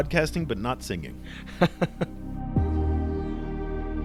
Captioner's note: voiceover